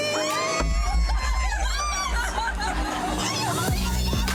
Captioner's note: group cheering